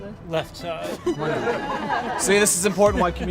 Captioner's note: laughing